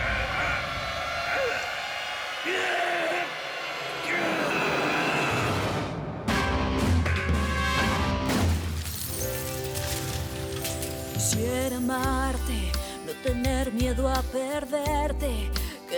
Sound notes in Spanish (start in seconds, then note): 2.4 Quejidos; 5.3 Gritos; 12.1 Tema musical